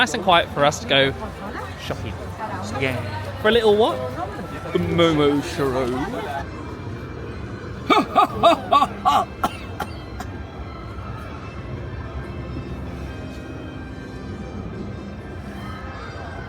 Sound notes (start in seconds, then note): 11.3 coughs